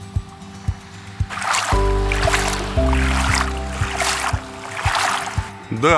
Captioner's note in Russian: плеск воды